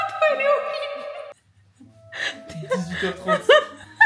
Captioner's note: bursts out laughing because the photo is HORRIBLE